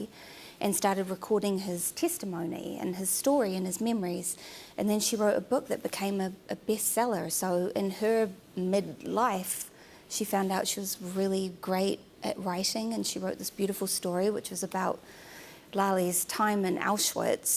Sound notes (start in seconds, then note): none